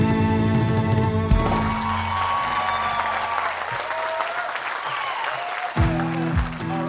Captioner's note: applause